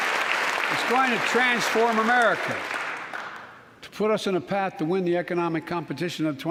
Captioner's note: applause